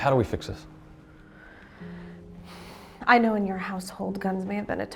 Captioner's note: breathes deeply